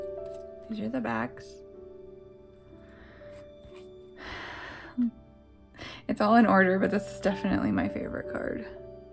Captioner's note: sigh